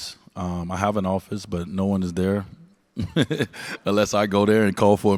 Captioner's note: laughs